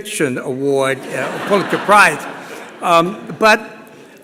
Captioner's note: laughter